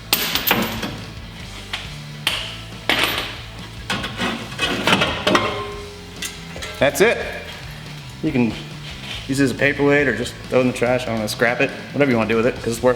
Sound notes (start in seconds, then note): 0.2 clattering; 2.9 metallic scraping